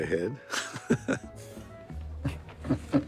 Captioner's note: laughing; chuckling